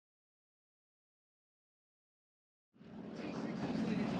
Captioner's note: plane engine roaring